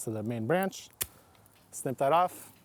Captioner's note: trimmers snip